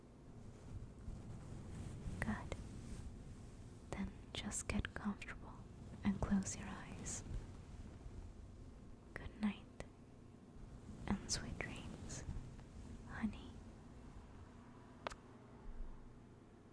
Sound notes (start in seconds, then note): 14.9 kiss